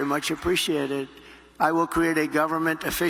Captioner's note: applause